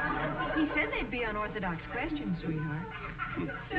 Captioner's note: audience snickering